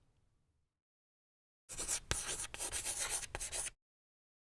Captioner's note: chalk scratching